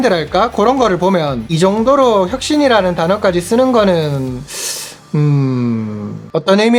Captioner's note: 스읍